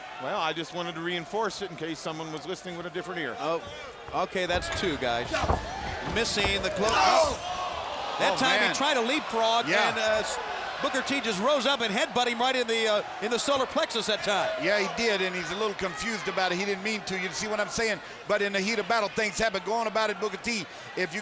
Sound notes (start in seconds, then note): 7.3 fans cheering